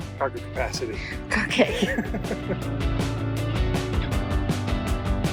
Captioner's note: laughing; upbeat music